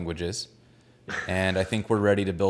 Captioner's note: laughs